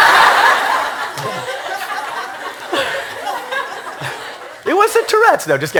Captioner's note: laughter